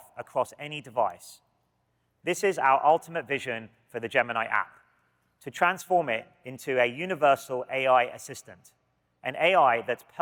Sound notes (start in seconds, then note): none